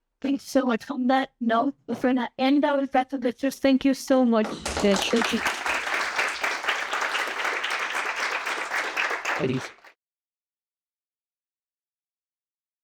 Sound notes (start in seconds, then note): 6.1 audience applauding